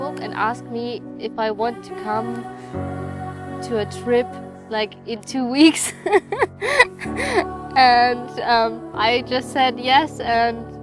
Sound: laugh

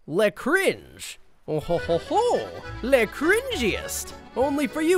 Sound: in a French accent

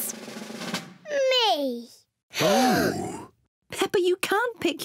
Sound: drum roll; all gasp

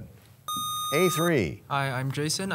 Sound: sound of a buzzer

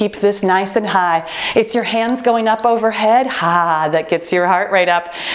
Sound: timer beeping

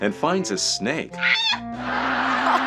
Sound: character screams; fake laughs

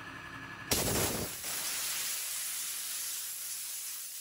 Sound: water hisses

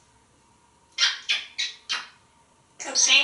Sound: smooches

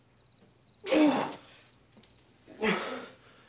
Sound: groaning

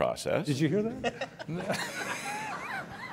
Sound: laughing

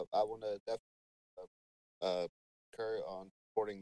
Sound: speaks faintly

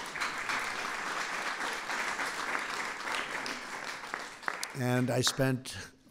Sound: applause

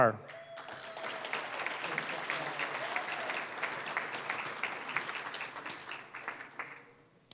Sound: applause

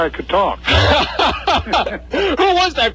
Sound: laughs

